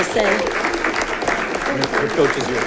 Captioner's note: audience clapping